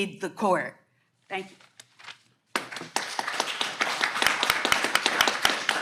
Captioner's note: audience clapping